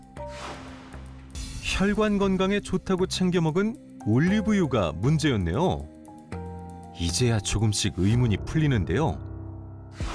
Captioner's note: voiceover